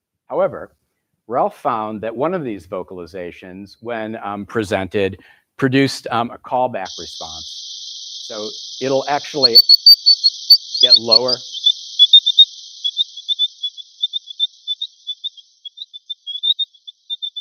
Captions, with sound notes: However, Ralph found that one of these vocalizations when presented produced a callback response. So it'll actually get lower. [GERBIL CHIRPING]